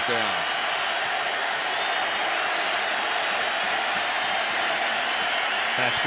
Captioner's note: cheering